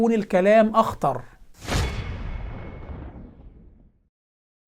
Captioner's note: sound effect